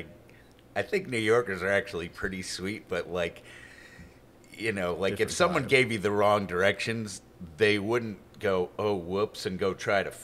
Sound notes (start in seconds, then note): none